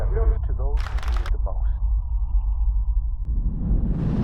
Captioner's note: clapping; wind blowing